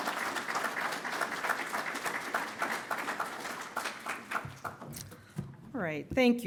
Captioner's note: applause